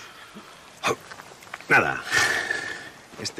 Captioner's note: sigh